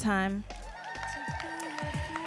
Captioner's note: audience cheering and applauding